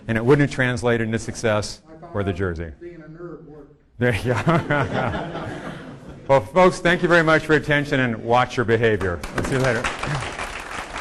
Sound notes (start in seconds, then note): 4.2 audience laughing